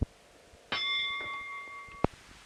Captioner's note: bell Sound